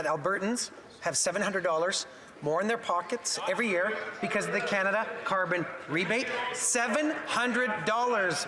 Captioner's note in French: voix de l'interprète